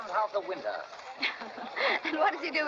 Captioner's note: Leslie laughs